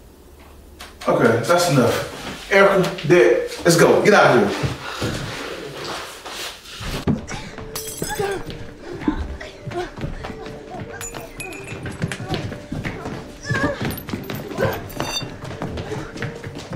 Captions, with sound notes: - Okay, that's enough. Erica, Dex, let's go, get out here. (mysterious music) (struggling) (glass breaking)